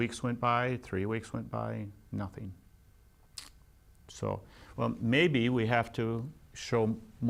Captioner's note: smacks lips